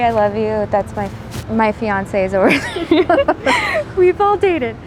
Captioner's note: laughs